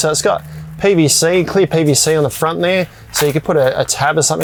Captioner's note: plastic crumpling